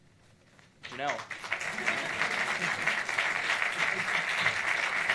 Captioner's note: audience applauds